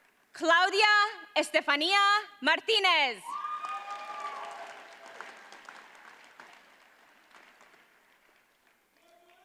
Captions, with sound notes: Claudia Estefania Martinez. (audience cheers and applauds)